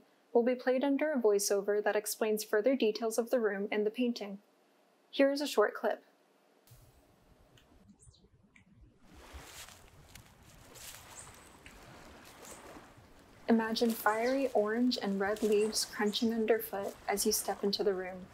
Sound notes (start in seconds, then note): 6.6 birds chirping in the distance; 9.1 leaves crunching from below; 11.5 distant sound of gentle waves